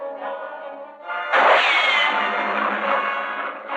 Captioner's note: gunshot